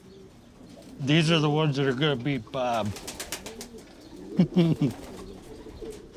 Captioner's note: chuckles